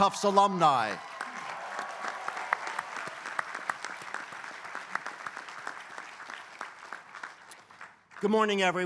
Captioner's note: applause